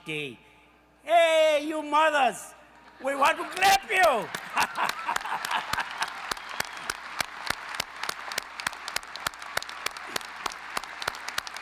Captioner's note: applause